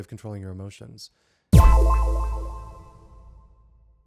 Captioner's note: tone echoing